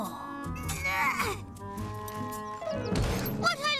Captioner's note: grunting